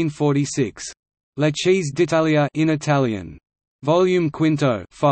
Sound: in Italian

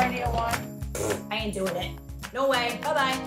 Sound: blowing raspberries

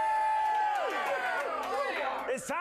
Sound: audience cheering

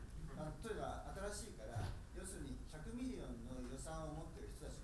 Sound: speaking in foreign language

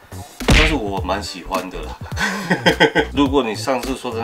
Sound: laugh

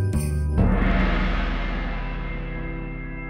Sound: gong sounds

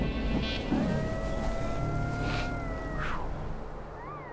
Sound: animal howling

